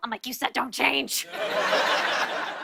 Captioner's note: laughter